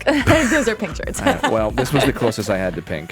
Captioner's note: laughs